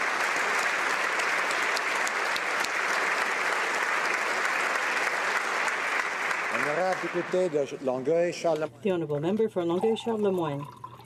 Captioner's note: applause